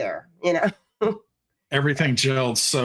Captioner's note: chuckling